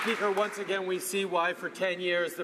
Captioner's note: some Applause